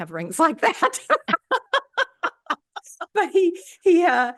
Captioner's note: laughter